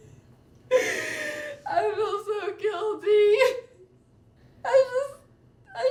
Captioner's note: sollozando